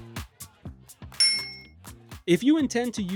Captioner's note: bell Sound